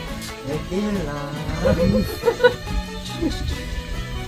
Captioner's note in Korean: 웃음